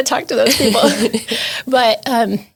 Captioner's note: laughs